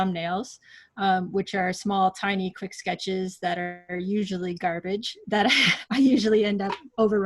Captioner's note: laughs